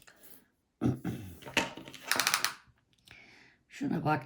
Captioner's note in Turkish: boğazını temizler